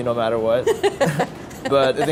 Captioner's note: laughing